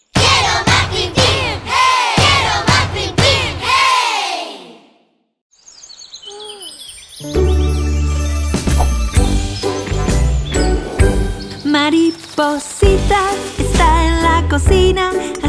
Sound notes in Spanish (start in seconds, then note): 5.5 Sonido de Bosque; 5.5 Música Alegre